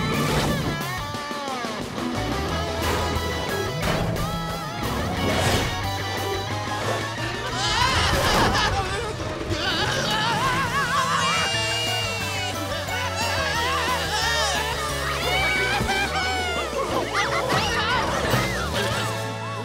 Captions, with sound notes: [screaming] Whee! Ya-hoo-hoo! - [screaming] - [laughing]